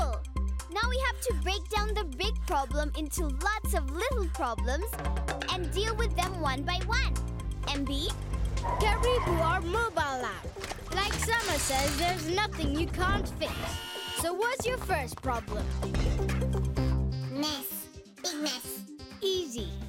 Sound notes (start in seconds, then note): 8.1 tires screeching; 13.1 whirring